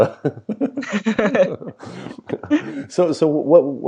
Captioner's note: both laughs